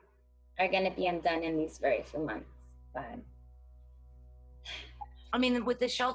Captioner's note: sighs